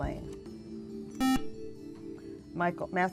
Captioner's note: buzzer